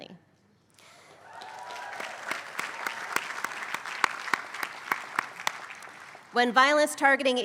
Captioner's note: applause